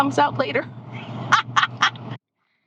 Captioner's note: laughing